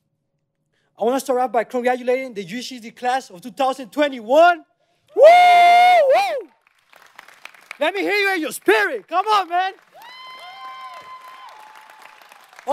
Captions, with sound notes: I want to start out by congratulating the UCSD class of 2021. (excited yell) Let me hear you in your spirit. Come on, man. (audience applauding)